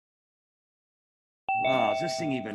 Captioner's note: bell rings